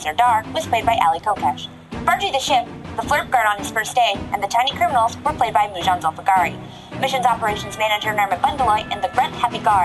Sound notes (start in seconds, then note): 1.4 again, indignant; 1.8 taunting